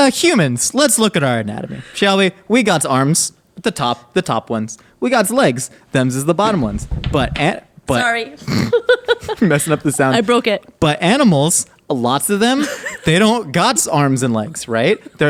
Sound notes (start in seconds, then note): 8.4 both laughing